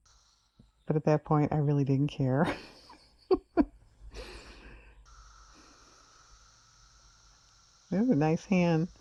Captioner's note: laughs